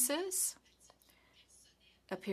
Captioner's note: speaking French